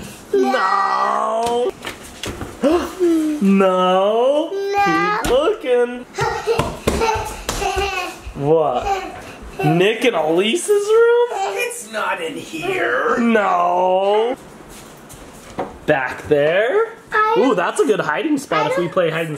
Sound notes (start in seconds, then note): 3.9 gasps; 6.2 giggles